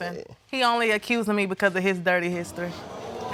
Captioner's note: audience murmuring